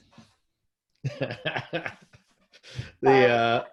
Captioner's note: laughs